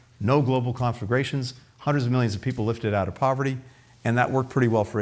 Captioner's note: none